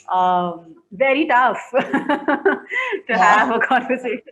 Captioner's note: laughs